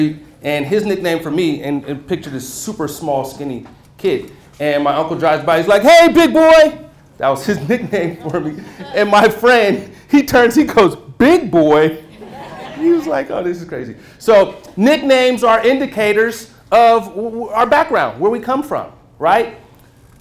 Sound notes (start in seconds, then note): 12.0 laughter